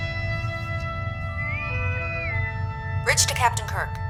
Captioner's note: intercom whistle